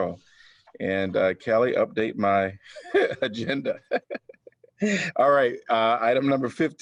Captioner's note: laughter